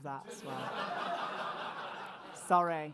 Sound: audience laughs

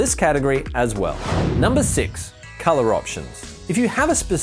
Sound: whooshing

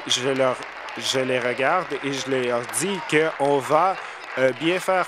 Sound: applause

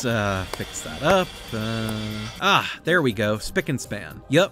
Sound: stereotypical construction noises

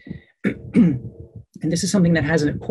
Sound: clears throat

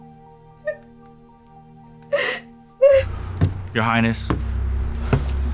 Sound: sobbing

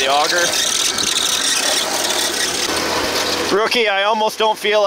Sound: machine engine roaring

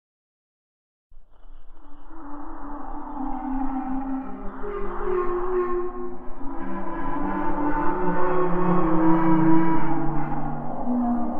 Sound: eerie ghost voices

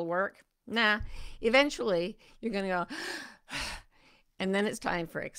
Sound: inhales and exhales deeply

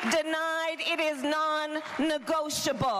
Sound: applause

